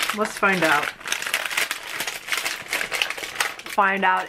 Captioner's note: plastic crunching